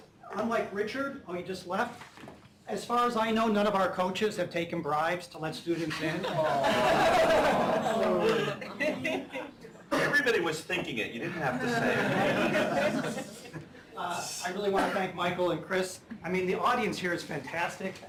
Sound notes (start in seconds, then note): 5.8 laughter